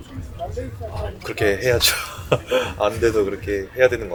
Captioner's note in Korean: 웃음